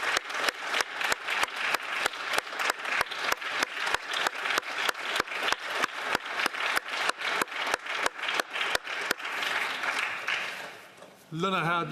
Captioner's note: applause